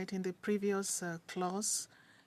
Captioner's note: speaking French